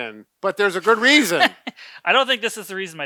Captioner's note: laughs